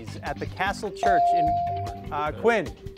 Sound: device dings

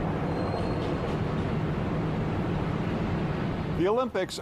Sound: traffic hums

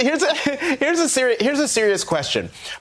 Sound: laughter

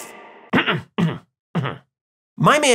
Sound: cough cough cough

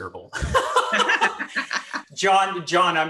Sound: laughs

